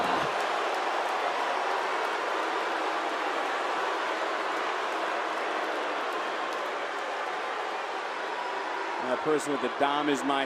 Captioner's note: crowd boos